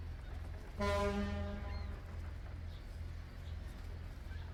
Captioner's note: horn honks